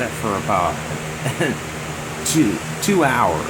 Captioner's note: laughing